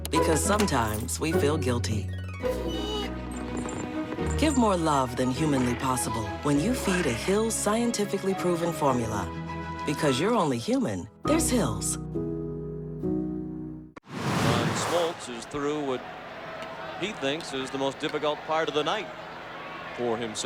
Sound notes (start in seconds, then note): 3.5 whining, purring